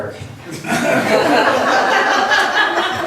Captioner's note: laughs